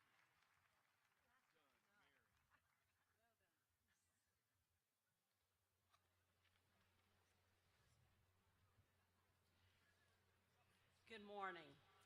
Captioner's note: applause